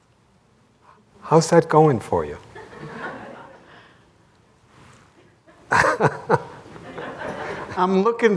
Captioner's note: laughter